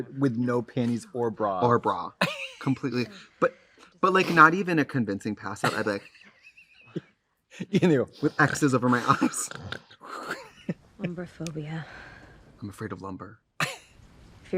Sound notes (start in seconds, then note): 2.1 Katya laughs; 9.0 Katya snores; 13.5 Trixie laughs